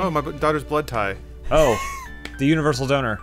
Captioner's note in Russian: смеется